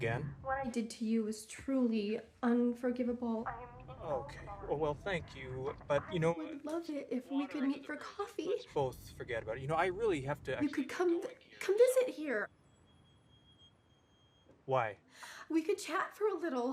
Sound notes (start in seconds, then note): 6.9 on phone; 12.6 brakes squealing